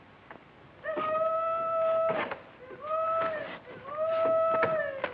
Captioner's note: hollering